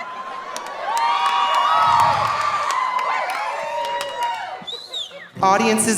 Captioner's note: audience applauding; audience cheering